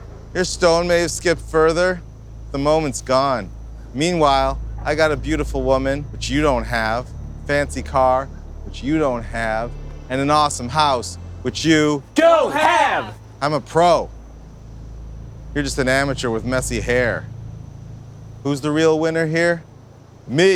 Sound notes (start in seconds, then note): 12.0 group shouting